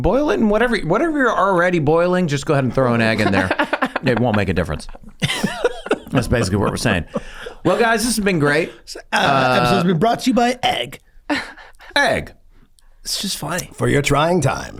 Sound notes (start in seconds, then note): 4.9 laughs; 5.4 Charlie laughs; 11.3 laughs